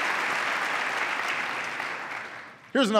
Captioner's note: applause